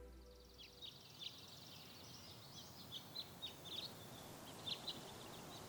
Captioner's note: birds chirping